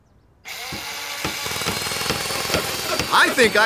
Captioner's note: whirring